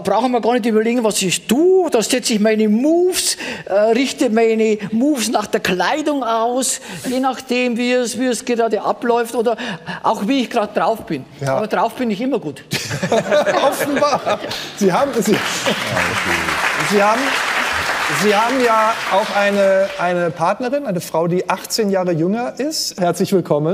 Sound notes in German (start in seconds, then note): 12.8 Lachen; 14.9 Applaus